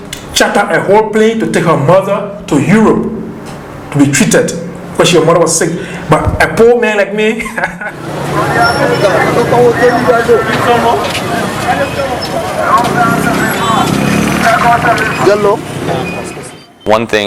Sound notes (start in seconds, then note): 12.1 laughing